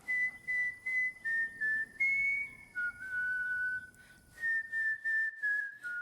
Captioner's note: whistling